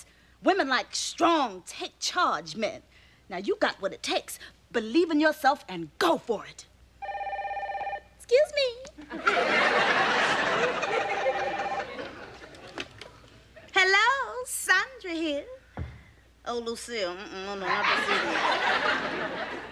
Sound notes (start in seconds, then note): 7.0 phone ringing